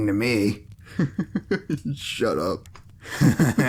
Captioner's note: laughing at some corny ass shit